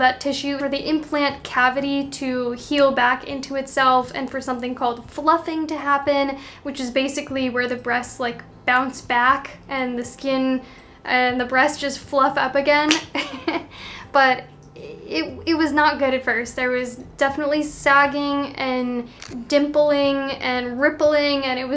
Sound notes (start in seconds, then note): 13.1 chuckling